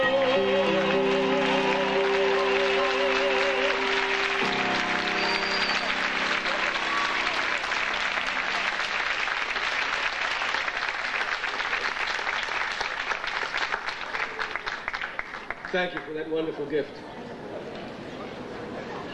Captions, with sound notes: (audience applauding) - Thank you, for that wonderful gift.